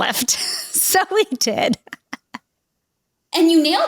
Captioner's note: laughs